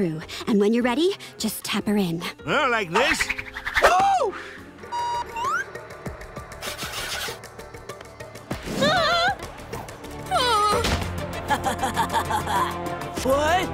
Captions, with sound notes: and when you're ready just tap her in. Ah, like this? Ooh! [shrieking] [laughing] What?